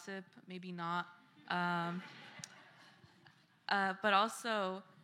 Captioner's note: laughter